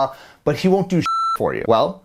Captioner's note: beeping